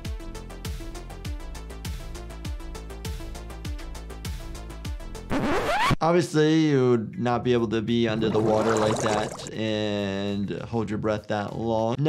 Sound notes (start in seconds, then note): 5.3 record scratch